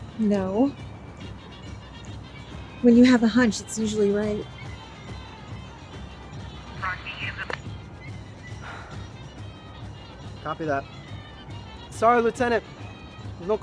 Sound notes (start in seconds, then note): 7.1 woman speaking foreign language